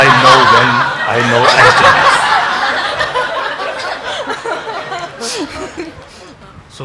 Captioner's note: congregation laughing